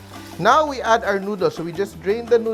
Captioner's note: sizzle